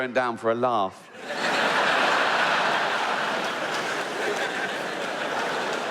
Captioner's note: audience laughing